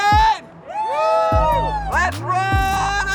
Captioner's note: cheers